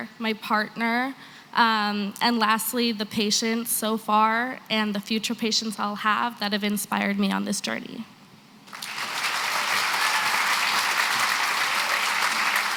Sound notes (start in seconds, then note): 8.6 applause